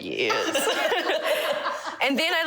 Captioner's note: laugh